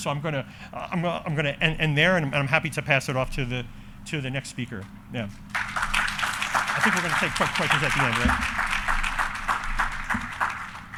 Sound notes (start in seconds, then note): 5.5 audience applauding